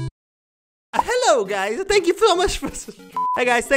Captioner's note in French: rire